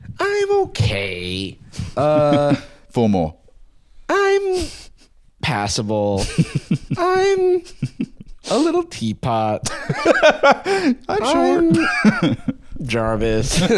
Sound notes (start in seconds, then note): 6.2 chuckling; 9.6 laughs